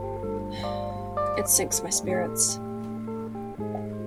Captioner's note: sigh